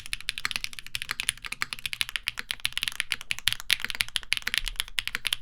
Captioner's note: keyboard clacking